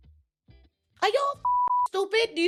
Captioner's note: beep